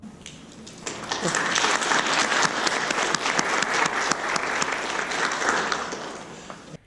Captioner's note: applause